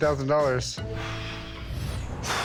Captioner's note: exhales sharply